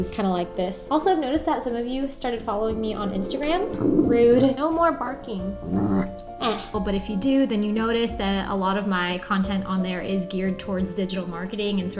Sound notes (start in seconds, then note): 3.1 dog growling